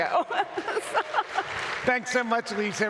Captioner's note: audience applauds